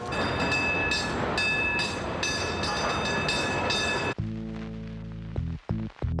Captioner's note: <i> bell ringing</i>